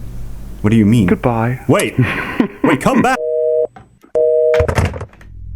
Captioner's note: phone beeps